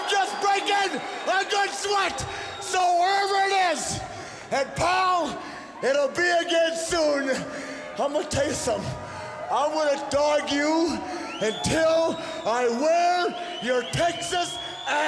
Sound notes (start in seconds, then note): 2.8 crowd cheering